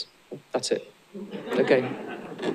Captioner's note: laughter